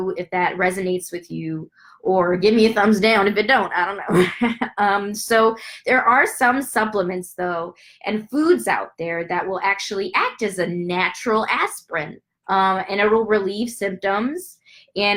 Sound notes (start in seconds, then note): 4.1 laughs